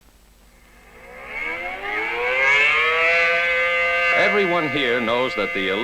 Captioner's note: siren sound